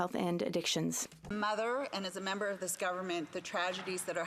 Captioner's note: some Applause